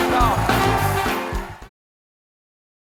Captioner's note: applause